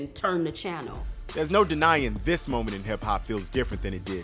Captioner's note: voiceover